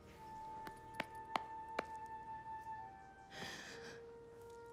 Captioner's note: hand pats